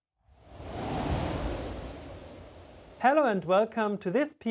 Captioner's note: swoosh